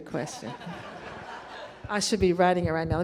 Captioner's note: crowd laughing